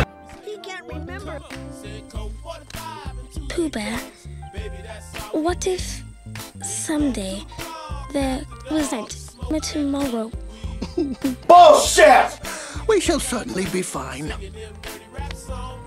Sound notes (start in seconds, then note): 10.6 chuckles